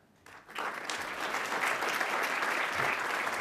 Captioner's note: applause